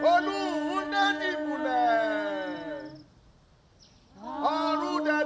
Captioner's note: chanting